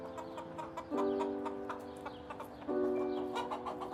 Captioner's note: chickens clucking